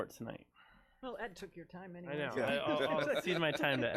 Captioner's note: laughing